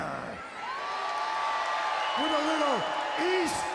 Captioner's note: audience cheering